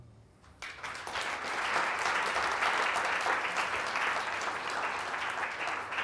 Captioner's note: audience applauds